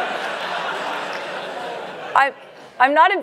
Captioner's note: laugh